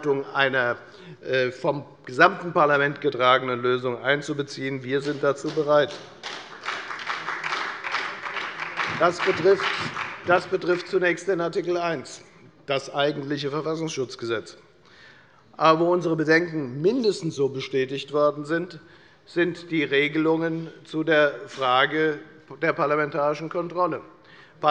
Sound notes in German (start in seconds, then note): 5.0 Beifall bei der FDP und bei Abgeordneten der SPD